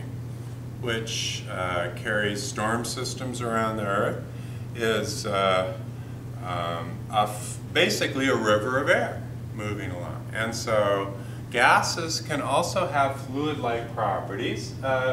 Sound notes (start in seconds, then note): none